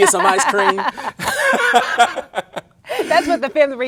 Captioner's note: both laughing